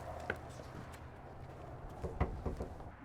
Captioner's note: knocks on door